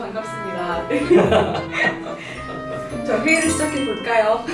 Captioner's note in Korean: 웃음소리